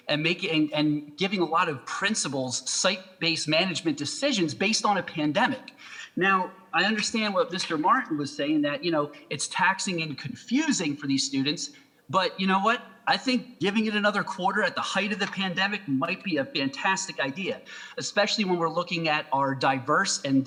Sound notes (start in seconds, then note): none